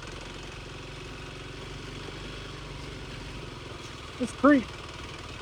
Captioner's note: motor rumbling